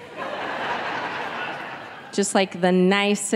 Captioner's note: audience laughing